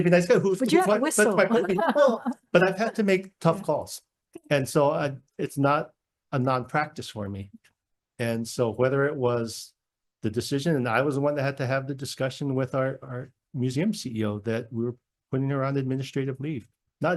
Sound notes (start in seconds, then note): 0.6 laughs